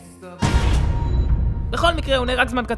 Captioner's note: explosion